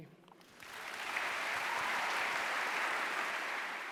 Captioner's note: applause